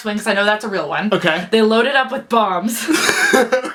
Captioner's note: laughs